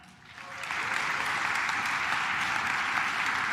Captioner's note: claps